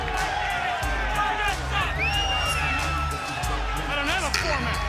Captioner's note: crowd cheering